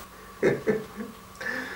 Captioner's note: laugh